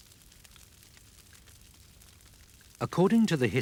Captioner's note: fire crackling